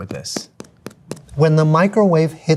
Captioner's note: finger thumping